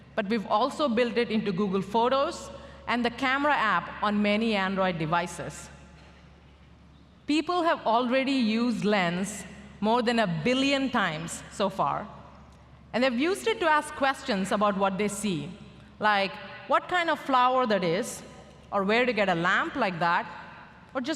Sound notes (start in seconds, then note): none